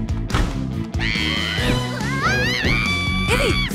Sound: screaming

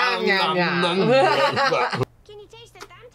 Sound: laughs

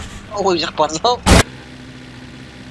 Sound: crash

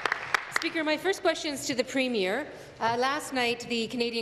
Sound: applause

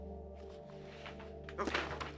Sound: papers flap

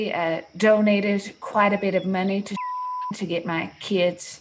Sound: beep

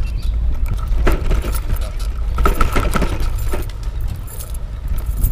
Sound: bike clanking

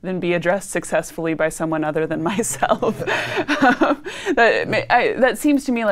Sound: laughing

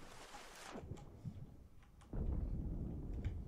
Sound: boom

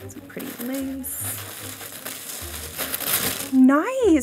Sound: paper rustling

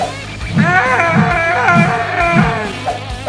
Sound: screaming

